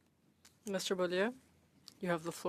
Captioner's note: speaking French